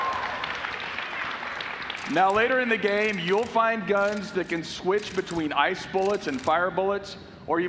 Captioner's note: applause